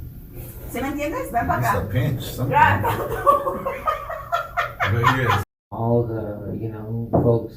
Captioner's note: laugh